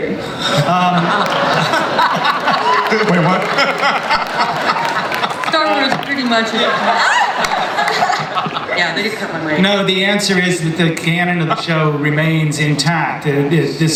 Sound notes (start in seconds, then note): 0.2 audience and panelists laugh; 5.7 voiceover